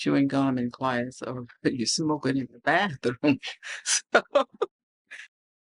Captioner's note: laughs